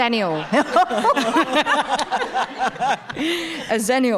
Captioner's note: people laughing